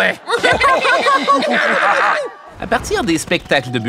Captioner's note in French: rires